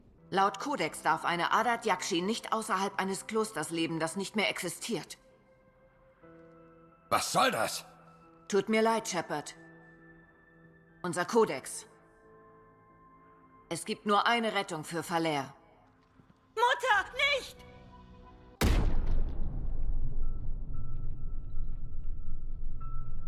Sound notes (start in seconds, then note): 18.6 bang